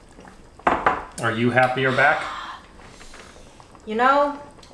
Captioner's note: sighing